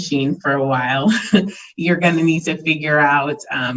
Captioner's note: chuckles